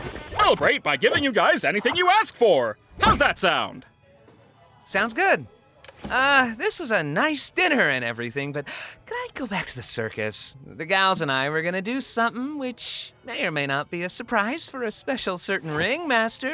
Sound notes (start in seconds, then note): 8.6 inhales sharply